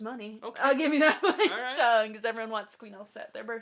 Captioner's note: laughs